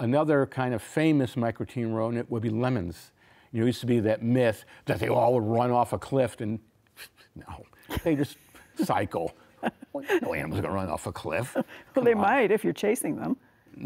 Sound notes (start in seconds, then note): 7.0 giggles